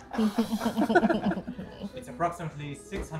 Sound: laughing

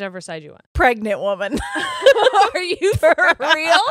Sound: both laugh

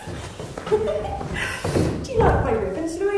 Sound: both women giggling

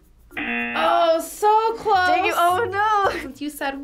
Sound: buzzer rings

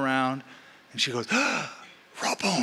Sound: gasping

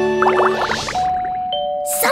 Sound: doorbell ringing

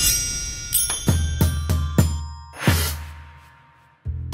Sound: bells dinging

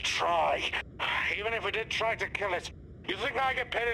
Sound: sigh

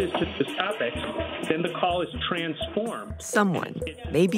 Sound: toilet flushes

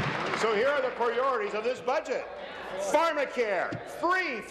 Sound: applause

